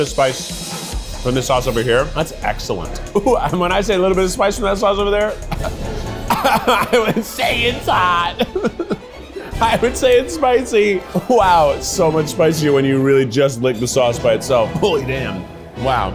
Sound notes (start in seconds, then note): 5.3 coughs; 5.4 dramatic orchestral music; 9.3 laughs